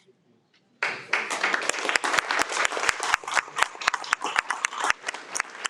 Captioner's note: audience applauds